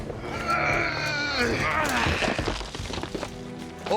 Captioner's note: grunting